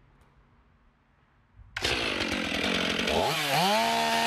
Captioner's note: chain saw is started